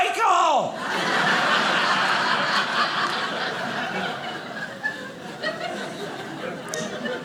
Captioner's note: audience laughing